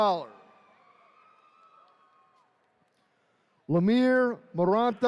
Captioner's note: attendees cheering